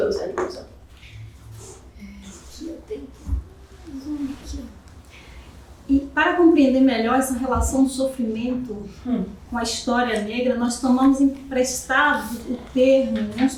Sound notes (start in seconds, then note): 3.0 mutters; 4.4 speaking portuguese